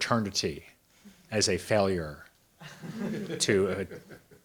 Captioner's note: audience members laughs